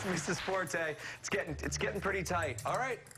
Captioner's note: applause